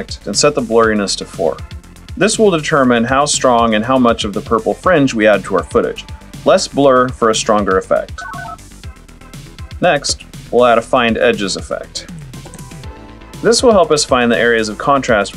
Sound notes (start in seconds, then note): 8.2 analog beeps; 12.2 typing